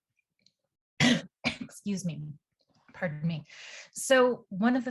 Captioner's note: coughs